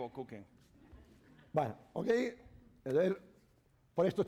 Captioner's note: speaking spanish